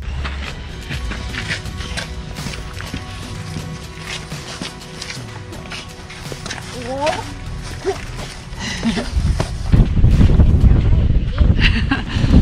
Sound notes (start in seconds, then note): 0.1 shoes scuffling; 7.6 and kids laugh